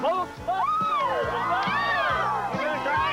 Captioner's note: cheering